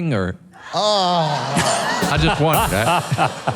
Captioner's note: laughs